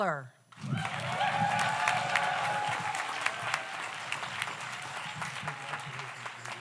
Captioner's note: audience applauds; audience cheers